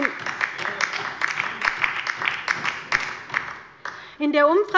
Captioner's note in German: Beifall bei der LINKEN